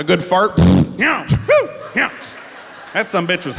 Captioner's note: fart sound